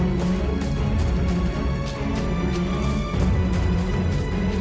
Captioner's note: footsteps thudding